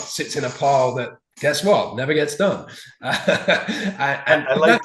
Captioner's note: chuckling